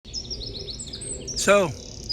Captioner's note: birds chirping